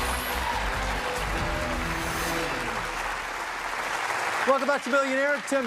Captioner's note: dramatic music; cheers and applause